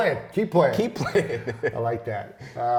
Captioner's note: laughs